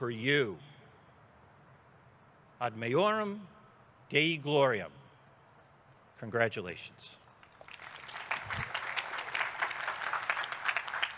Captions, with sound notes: (speaks in foreign language) Congratulations. (students clapping)